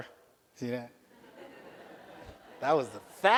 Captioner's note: audience laughs